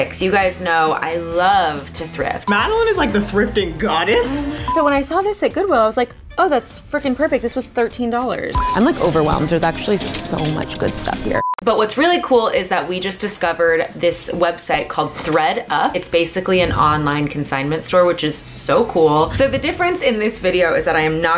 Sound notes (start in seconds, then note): 10.6 beeping